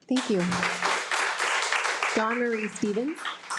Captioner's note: participants applauding